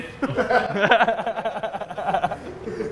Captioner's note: laughs